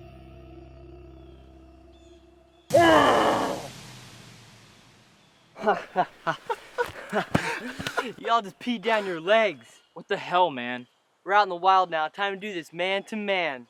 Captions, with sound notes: (growling) (laughing) Y'all just peed up. Y'all just peed down your legs. What the hell man? We're out in the wild now, time to do this man to man.